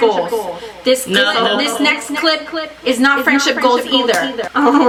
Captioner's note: echoing